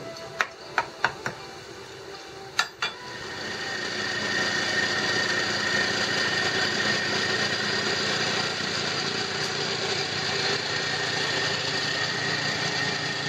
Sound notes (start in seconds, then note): 0.2 tapping; 3.2 motor running